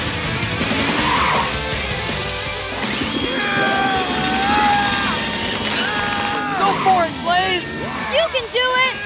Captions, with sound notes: [grunting] Go for it, Blaze! You can do it!